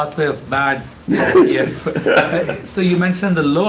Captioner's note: laughing